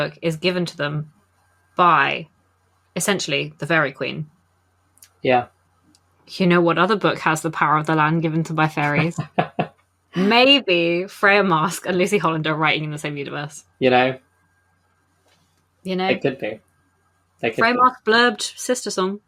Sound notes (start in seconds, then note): 8.7 laughs